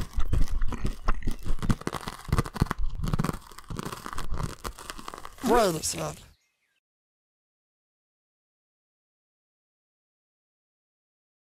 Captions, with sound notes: [More crunching] [Inquisitive crunching] [Suspicious crunching] Wait a second.